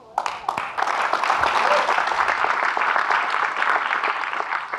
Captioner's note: audience clapping